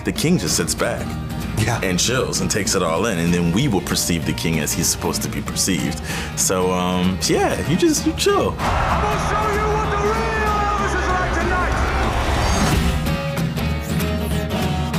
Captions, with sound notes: The king just sits back-- - Yeah. --and chills and takes it all in. And then we will perceive the king as he's supposed to be perceived. So, yeah, you just-- you chill. [CHEERING] I'm going to show you what the real Elvis is like tonight. [ROCK AND ROLL MUSIC]